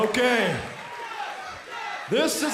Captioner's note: crowd cheering